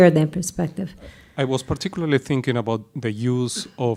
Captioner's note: voiceover